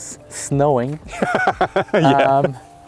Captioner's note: laughing